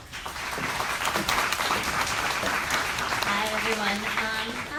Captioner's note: audience applauds